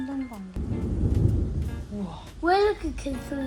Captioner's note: boooom